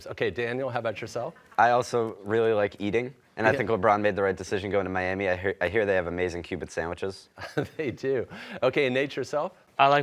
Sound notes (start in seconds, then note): 7.7 laughing